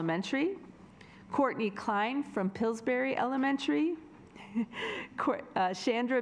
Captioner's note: laughs